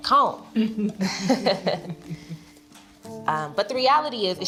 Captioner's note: chuckles